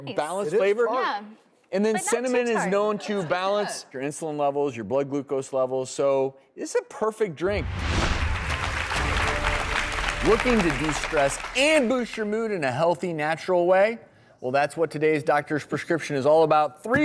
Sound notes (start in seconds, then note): 3.6 audience laughs; 8.0 crowd clapping